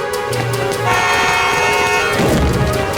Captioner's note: horn honking